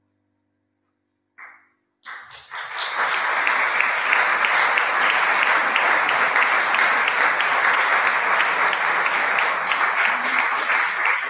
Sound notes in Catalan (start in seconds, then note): 2.6 aplaudiments